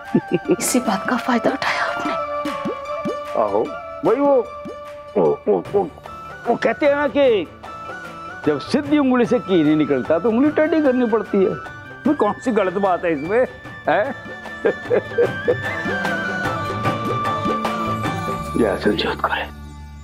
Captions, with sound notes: You took advantage of that. Yes, that... It is said... you need to change your ways to get things done. What is wrong with this? [chuckling] Listen Sanjyot Kaur.